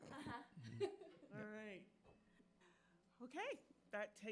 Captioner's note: directors chuckling